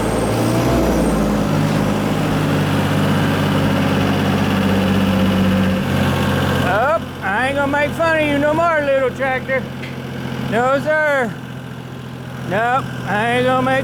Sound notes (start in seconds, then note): 0.9 truck Engine Revs